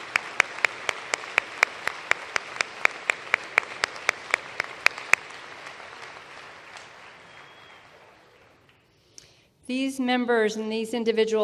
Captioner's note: applause